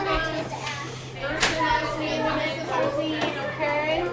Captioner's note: children chattering